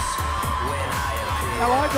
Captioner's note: cheers & applause